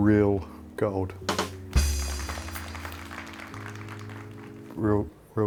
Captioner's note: drums rolling; crowd applauding